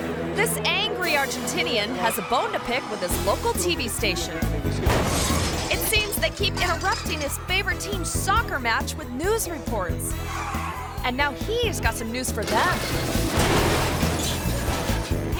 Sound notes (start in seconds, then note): 4.8 truck smashes; 11.7 truck smashes